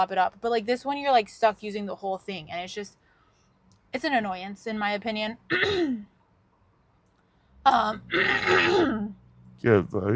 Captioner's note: clears throatt